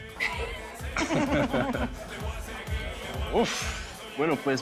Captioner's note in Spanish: Risas